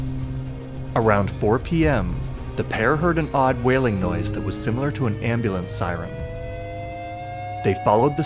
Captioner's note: rising alarm